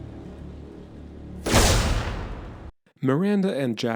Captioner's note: gunshot